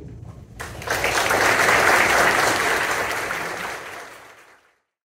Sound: applause

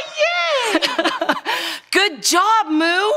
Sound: laughs

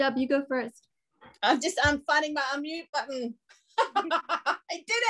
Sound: laughs

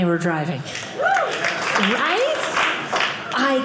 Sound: audience applauding

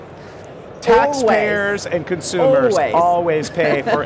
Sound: laughs

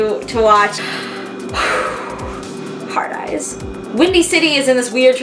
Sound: sigh

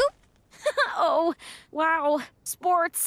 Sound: laughs

